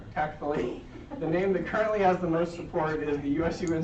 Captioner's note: laughter